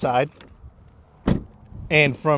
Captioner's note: door shuts